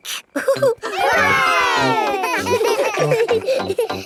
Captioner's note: laughing; chuckles